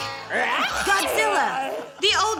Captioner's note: plays tunelessly; screeches